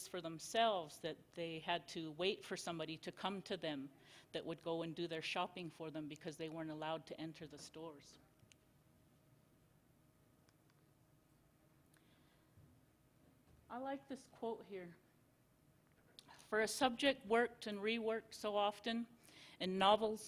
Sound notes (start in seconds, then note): 8.1 silence